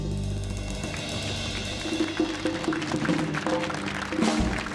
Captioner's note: audience applauds